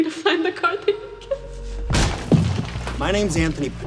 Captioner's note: giggles